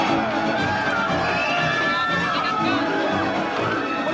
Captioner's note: women screaming